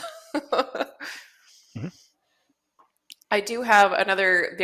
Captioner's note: laughter